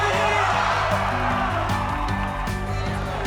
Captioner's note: cheering